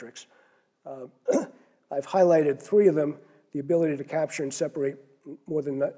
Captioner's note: cough